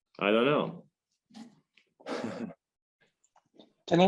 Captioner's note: light audience chuckle